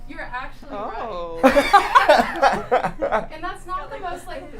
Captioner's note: laughing